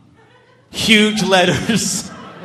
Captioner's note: laughs